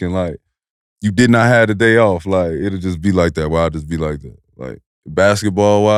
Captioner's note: none